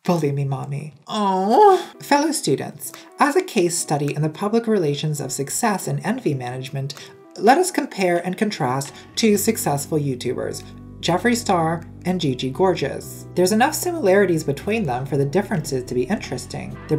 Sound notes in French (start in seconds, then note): 1.2 gémissement comique